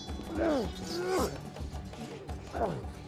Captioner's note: grunting